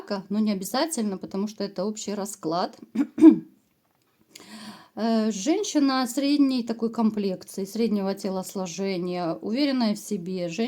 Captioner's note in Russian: откашливается